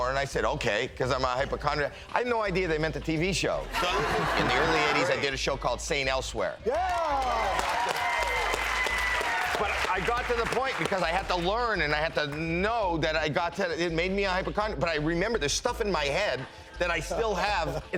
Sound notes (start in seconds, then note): 3.7 audience laughing; 6.7 hosts and audience applauding